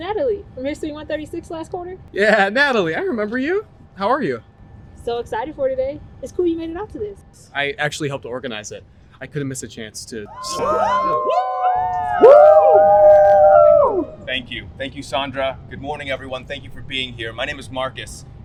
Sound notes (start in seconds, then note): 10.3 cheering